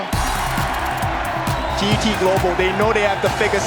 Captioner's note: commentator in English